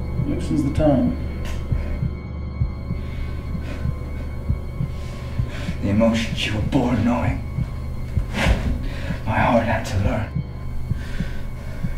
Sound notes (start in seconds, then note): 0.0 electronic Beep; 1.7 heartbeat; 8.1 painful Gasp